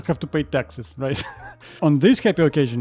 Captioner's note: chuckle